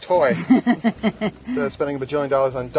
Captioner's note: woman laughs